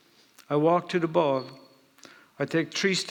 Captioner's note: none